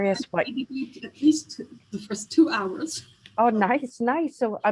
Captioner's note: laughs